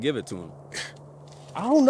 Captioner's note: scoffs